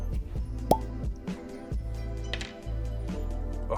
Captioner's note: cork pops